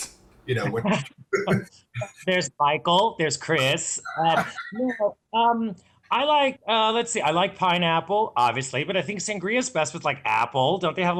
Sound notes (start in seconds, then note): 1.9 laughing; 4.6 distorted computer voice